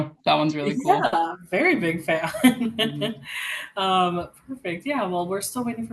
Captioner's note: laughs